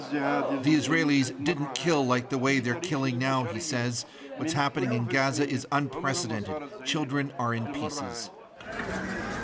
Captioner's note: speaking alternate language